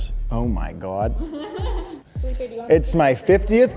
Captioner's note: laughing